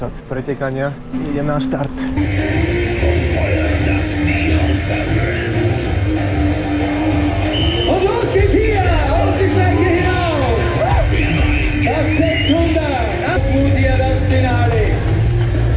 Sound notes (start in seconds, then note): 1.8 rock music; 2.7 whistles